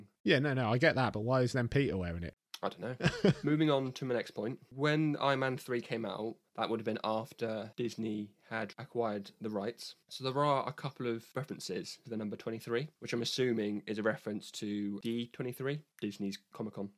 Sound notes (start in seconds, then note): 2.9 laughs